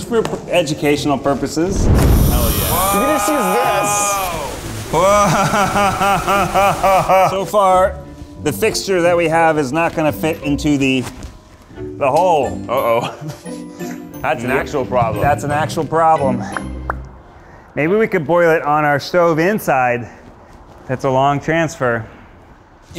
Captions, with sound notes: It's for educational purposes. - Hell, yeah. - Whoa. - You could just use this. - Whoa. (laughs) So far, the fixture that we have is not gonna fit into the hole. - Uh-oh. That's an actual problem. - That's an actual problem. Maybe we could boil it on our stove inside. It's a long transfer.